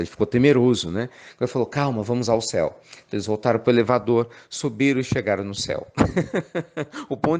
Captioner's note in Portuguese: Risos